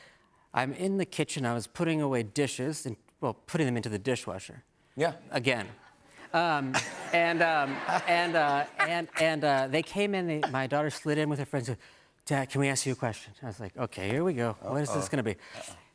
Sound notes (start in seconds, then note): 6.7 laughter